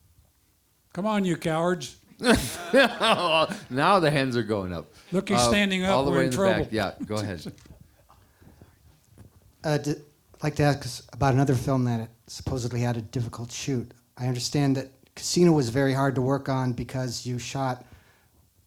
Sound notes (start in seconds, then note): 2.2 audience laughter